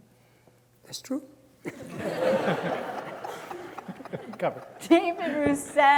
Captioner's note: audience laughing